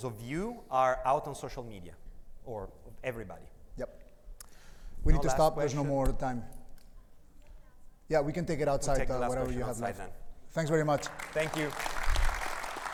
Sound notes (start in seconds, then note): 10.8 audience applauds